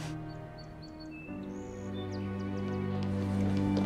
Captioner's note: birds chirping; light music